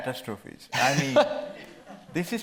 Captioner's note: laughing